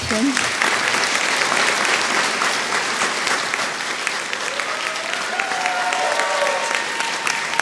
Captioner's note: applause